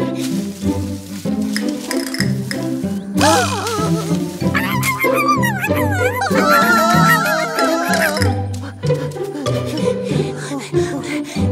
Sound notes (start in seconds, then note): 0.3 rustle of leaves; 3.1 grumbling; 7.1 screaming; 10.5 breath loudly